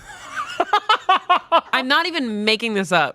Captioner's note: laughing